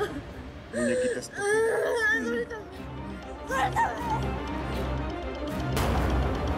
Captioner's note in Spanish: Entre sollozos